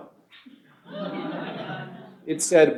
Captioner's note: laughter